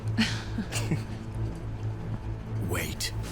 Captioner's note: both chuckling